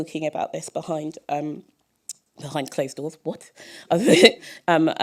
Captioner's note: chuckle